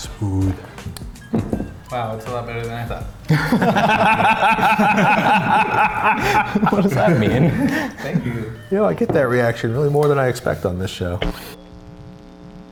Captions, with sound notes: It's good. Wow. It's a lot better than I thought. [LAUGHING] What does that mean? Thank you. You know, I get that reaction really more than I expect on this show.